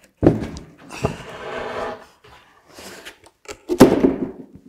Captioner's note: wood scrapes; sighs; wood bangs